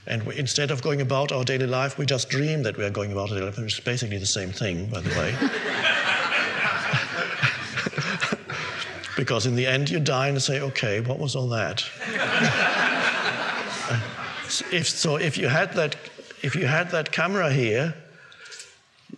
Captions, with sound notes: and instead of going about our daily life, we just dream that we are going about, it's basically the same thing, by the way. (audience laughing) Because in the end you die and say, okay, what was all that? (audience laughing) If you had that camera here,